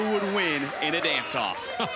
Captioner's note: laughing